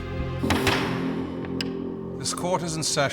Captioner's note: intense music; gavel banging